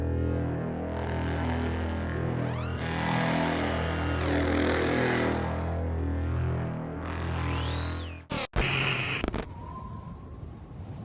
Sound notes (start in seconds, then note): none